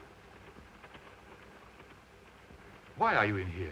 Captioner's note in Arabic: صوت خشخشة القطار